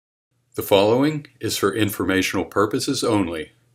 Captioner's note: male Voice